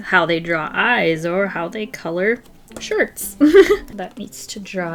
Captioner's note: laughs